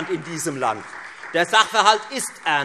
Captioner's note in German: Beifall Freie Demokraten